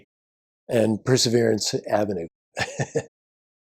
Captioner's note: laughs